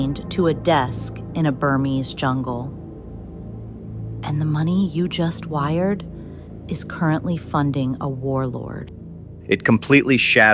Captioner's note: whispers